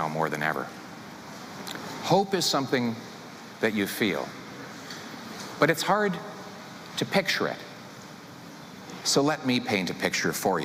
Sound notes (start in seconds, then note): none